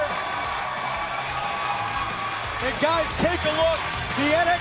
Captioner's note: crowd cheering